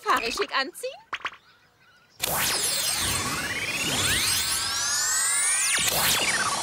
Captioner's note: whirring